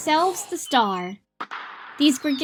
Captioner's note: fireworks